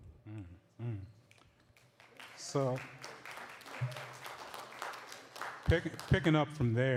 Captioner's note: applause